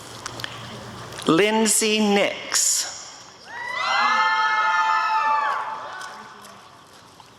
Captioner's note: applause and cheering